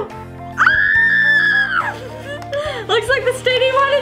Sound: screams

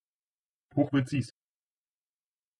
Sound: fast Pronunciation

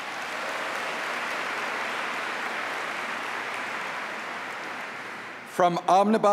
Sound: applause

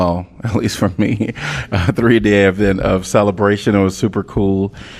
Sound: laughter

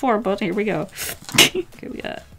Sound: short laugh

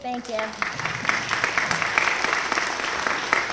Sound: applause

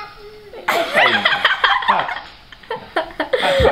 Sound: laughing

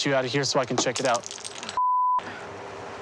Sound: object drops on ground

